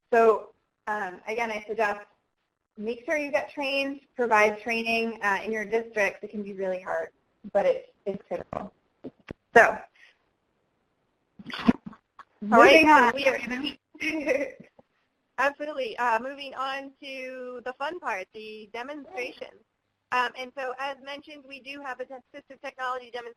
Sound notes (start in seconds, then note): 12.1 voiceover; 15.7 voiceover